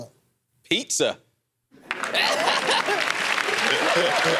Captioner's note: laughs; cheers and applause